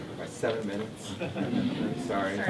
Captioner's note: audience laughs